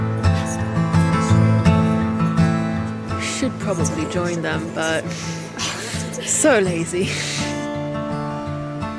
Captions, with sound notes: - Should probably join them, but I'm so lazy. (laughs)